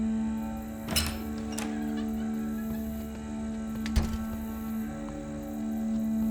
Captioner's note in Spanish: chirrido de insectos